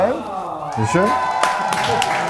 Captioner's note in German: Jubel, Applaus